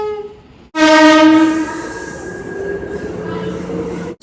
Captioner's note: air Horn; air Horn